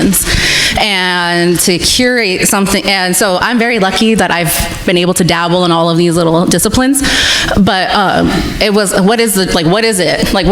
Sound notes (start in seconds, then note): none